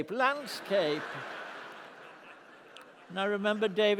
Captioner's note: laughter